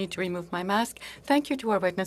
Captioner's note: speaking French